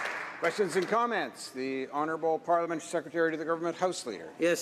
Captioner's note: applause